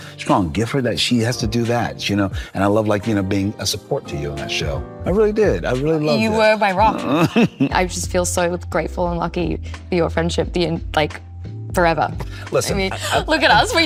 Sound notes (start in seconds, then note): 6.8 Colman chuckles